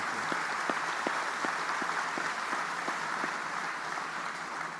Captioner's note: audience applauding